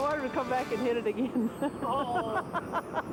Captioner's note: laughs